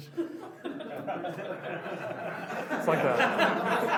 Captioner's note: laughs